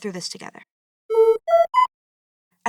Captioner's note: PSA notice tone